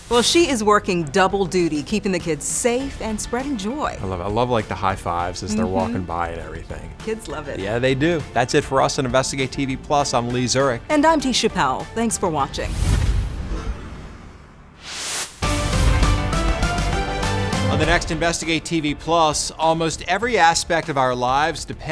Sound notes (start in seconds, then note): 13.1 air swooshes; 15.3 dramatic music